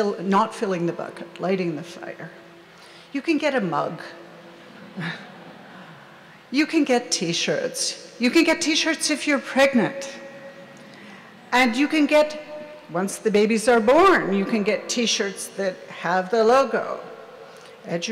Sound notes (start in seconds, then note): 4.6 audience laughs